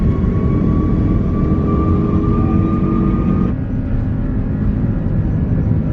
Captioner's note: engine whirring continues